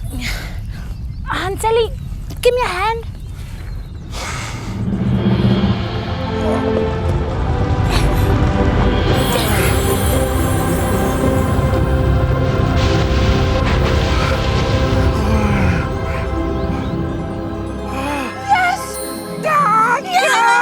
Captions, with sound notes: Hanseli, give me a hand. (TRIUMPHANT MUSIC) (MAGICAL TINKLING) Yes! Oh, yes!